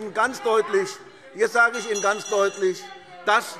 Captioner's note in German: Fortgesetzte Zurufe - Unruhe - Glockenzeichen